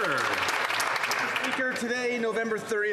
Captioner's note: applause